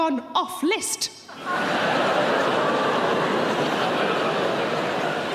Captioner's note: audience laughing